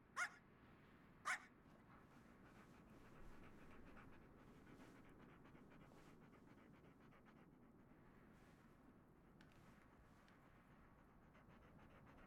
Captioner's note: dog barks playfully